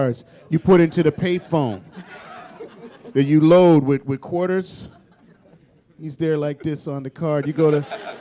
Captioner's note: laughter